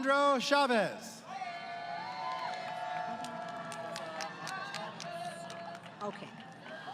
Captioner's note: crowd Cheering